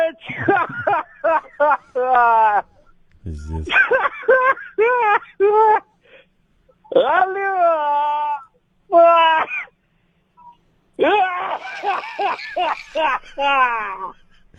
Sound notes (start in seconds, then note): 0.0 Bill laughs